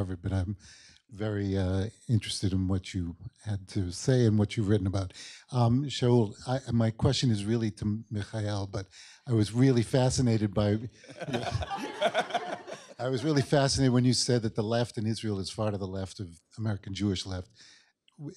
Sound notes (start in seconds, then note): 10.9 laughter